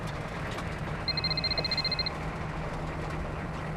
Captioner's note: cellphone ringing